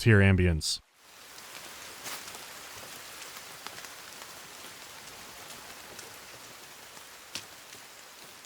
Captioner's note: soft whispering of the rain; wet slapping of feet in the mud, rustling of shrubbery